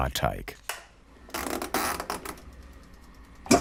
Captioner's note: creaking